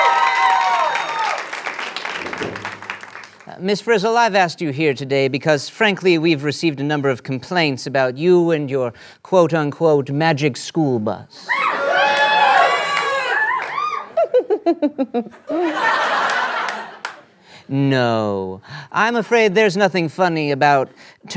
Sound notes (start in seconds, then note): 14.1 Ms. Frizzle laughs